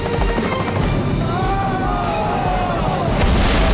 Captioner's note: spectators groan